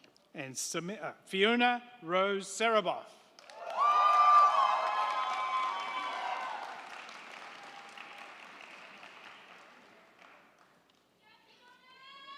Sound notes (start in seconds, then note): 3.4 crowd clapping; 3.4 crowd cheering